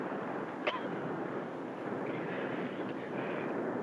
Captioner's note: coughs